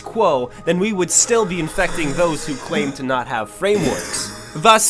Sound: slowed coughing

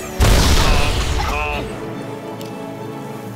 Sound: loud explosion; coughing

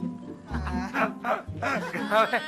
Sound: Regor and Prince laughing

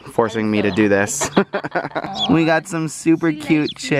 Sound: both laugh

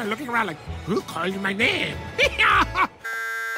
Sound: in French accent; intercom buzzes

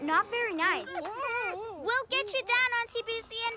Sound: shrieking

